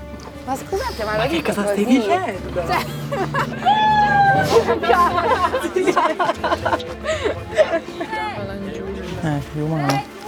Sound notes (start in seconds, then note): 3.0 exulting